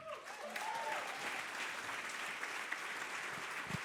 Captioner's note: audience applauding